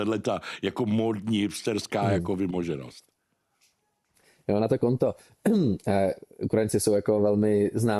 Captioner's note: clears throat